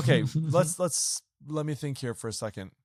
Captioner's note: chuckles